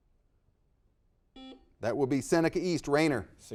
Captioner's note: buzzer dings